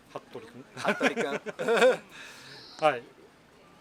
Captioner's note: laughs